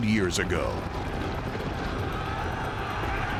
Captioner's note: soldiers yelling